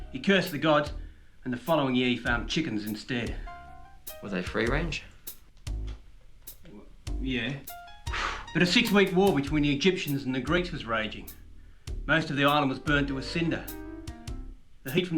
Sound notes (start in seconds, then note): 7.7 blows lightly